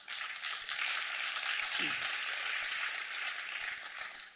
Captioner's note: applause